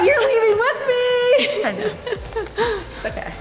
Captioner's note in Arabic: يضحك